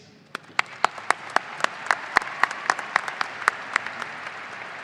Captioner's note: audience cheering